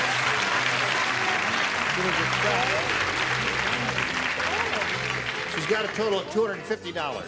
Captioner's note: applause